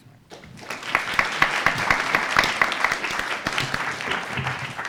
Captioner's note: crowd applauds